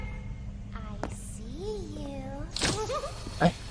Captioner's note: aunt laughs